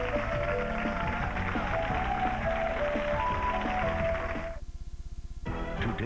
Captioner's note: applause